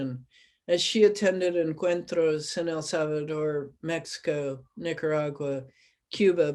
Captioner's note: spanish